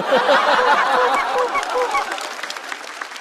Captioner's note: quack quack quack